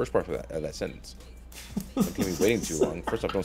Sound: laugh

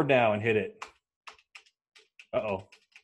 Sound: clicking keyboard

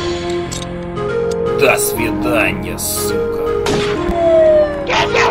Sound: in Russian

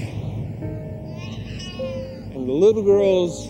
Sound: baby crying

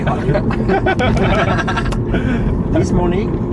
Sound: laughes

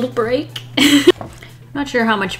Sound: laughs

